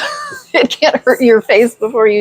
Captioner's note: laughs